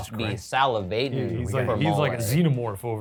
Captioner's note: mimics drooling